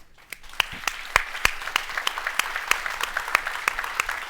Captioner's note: applause